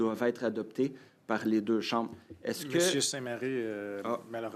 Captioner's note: speaking French